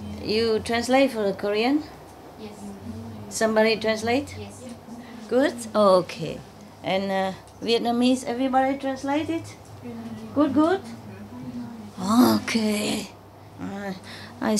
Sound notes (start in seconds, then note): 6.9 Vietnamese